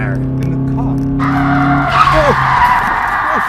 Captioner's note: john screams; brakes screeching